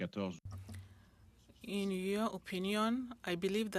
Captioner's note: speaking French